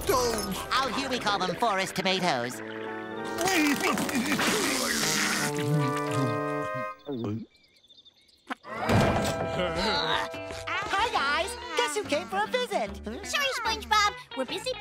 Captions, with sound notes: Out here we call them forest tomatoes. [sputtering] [munching] Hi, guys! Guess who came for a visit? Sorry, SpongeBob. We're busy playing chess